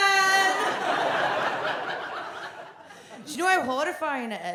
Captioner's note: audience laughs